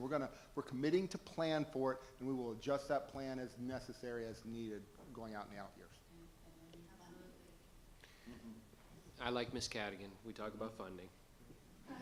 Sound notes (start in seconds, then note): 6.3 speaks faintly